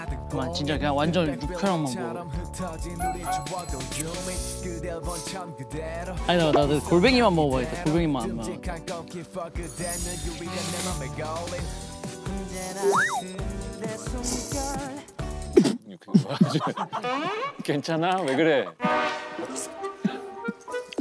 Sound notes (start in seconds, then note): 15.3 choked up; 15.7 laughing; 18.8 he suddenly starts laughing